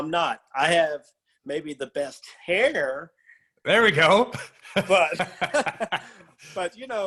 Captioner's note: laugh